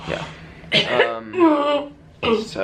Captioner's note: clears throat